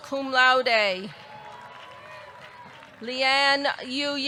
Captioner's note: audience clapping; audience cheering